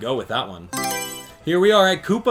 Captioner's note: Mario Selection Sound